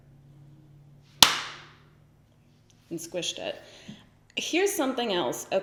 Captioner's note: smack